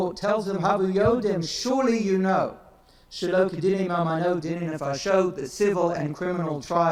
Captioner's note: speaks in foreign language; speaks in foreign language